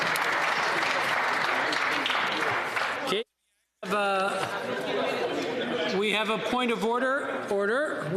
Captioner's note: applause